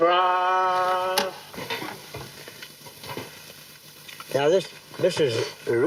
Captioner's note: tape rolling